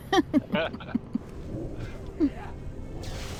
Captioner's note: laughter